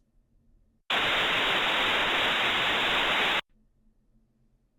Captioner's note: white noise sound